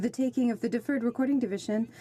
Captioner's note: speaking in French